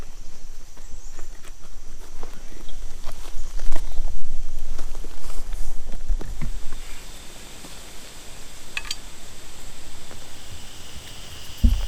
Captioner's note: natural noises